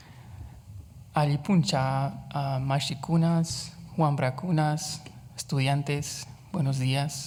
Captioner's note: speaks Quechua